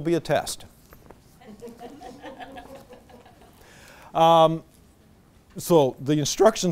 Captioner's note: audience laughter